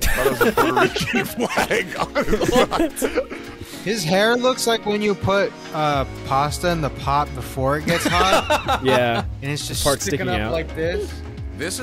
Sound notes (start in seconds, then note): 2.6 group laughing; 7.9 laughing